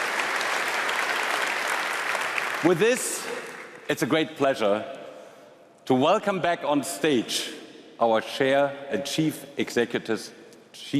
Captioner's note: applause